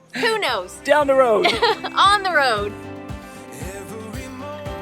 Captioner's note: laughs